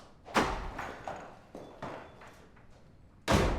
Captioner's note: door opens